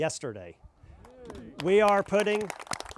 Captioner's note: crowd cheering